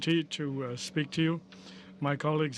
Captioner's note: speaking french